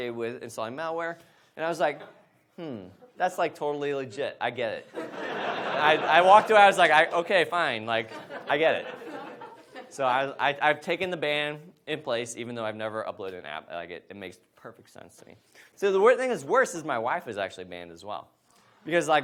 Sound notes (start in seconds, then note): 4.9 audience laughs